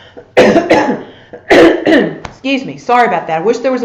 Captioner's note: coughs